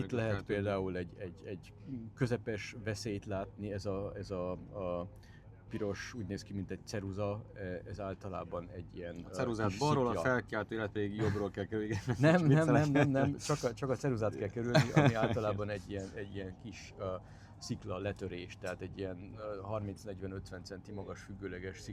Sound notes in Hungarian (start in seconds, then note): 14.6 nevetés